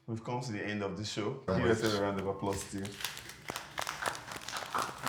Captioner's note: laugh